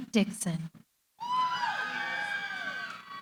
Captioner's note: cheering